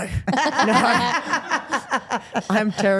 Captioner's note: Steph and Elyse laugh